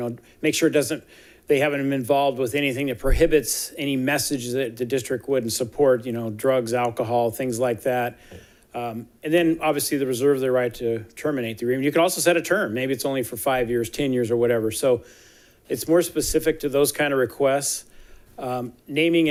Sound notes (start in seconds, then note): none